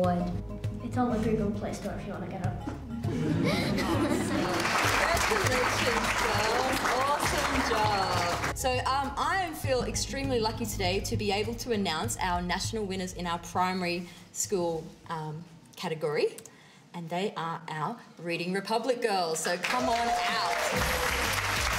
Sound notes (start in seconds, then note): 8.1 applause